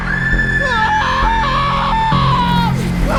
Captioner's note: screaming